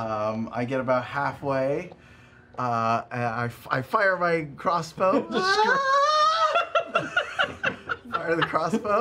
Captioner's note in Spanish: grito ululante